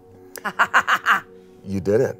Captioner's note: cackles